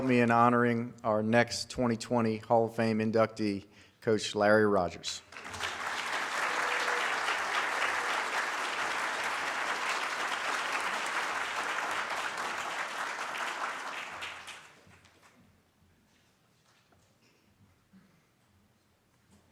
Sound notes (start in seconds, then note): 5.5 audience claps